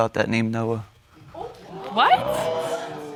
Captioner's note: audience exclaims